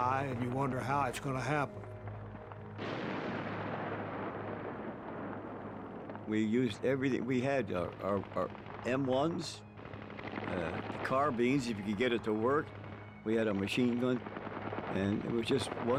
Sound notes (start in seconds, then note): 2.8 explosion